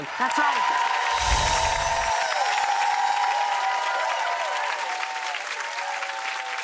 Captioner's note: audience cheering; chimes